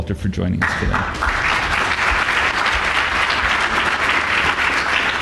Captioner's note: applause